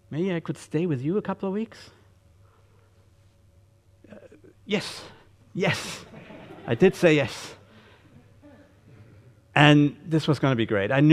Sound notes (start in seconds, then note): 6.0 audience laughing